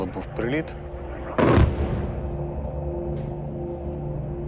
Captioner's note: loud explosion